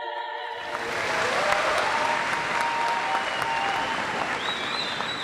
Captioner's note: audience applauds